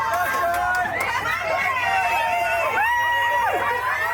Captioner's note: insanely loud shouting and cheering